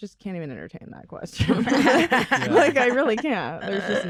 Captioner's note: laughter